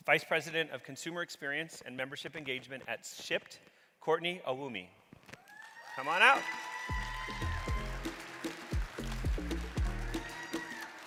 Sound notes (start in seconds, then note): 5.4 audience cheering; 7.0 audience clapping; 10.8 upbeat music